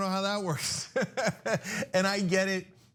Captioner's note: laugh